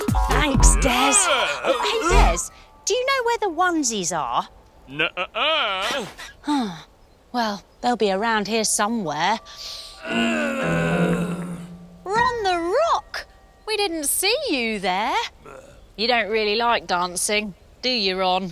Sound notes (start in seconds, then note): 6.1 sighs; 9.9 Ron grunts